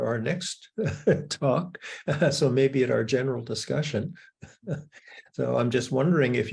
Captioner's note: laughs; laughs